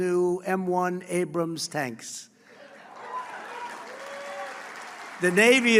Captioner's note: applause